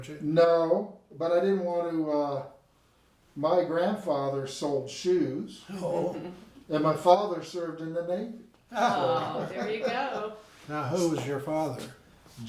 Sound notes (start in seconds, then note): 5.7 people laughing; 8.7 all laughing